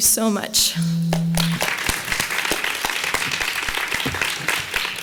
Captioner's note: audience applauding